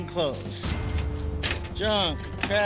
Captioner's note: cash register dings